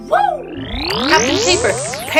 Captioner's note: electronic woosh